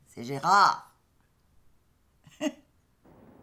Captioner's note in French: petit rire